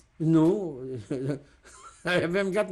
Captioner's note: laughs